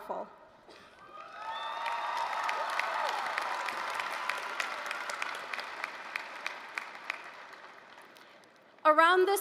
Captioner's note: applause, cheering